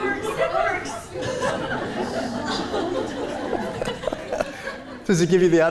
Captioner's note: laughter